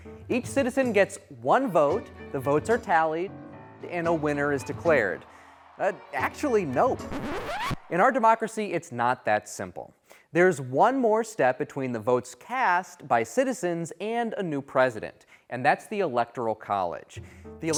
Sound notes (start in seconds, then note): 6.9 record scratching